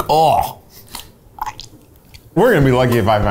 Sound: gags

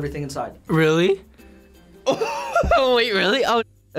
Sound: laughs

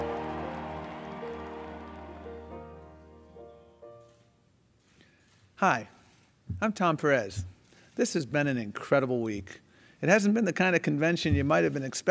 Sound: cheering and applauding

